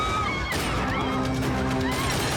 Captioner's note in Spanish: gritos